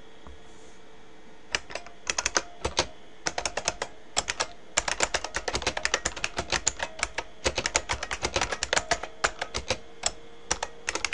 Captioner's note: typing